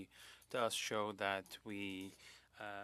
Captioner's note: speaking French